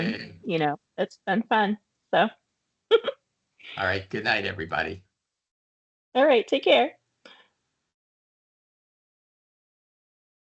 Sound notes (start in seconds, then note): 3.8 chuckling